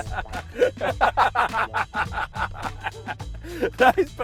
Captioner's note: both laugh